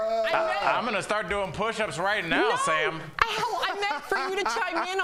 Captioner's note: laughter